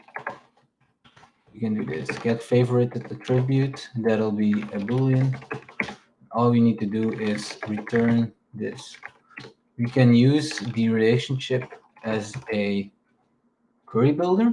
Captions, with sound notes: We can do this. Get favorite at the tribute. (keyboard clacking) That'll be a boolean. All we need to do is return this. We can use the relationship as a query builder.